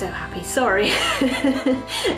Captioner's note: awkward laugh